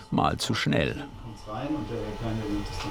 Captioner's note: snippets of conversation